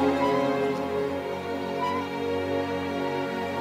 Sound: metal squeaking

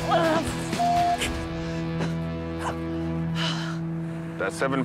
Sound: groans; beeps

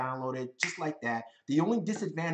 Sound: fingers snap

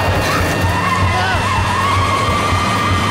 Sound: shrieking

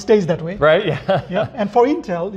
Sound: laughs

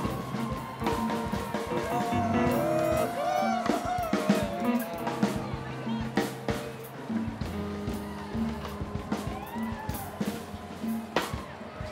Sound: applause

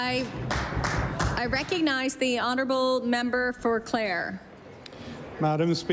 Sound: applause

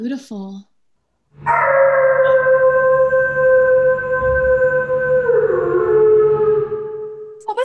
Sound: a howl

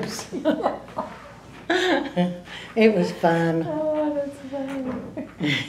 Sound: laughter

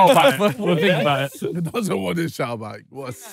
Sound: stifled laughter

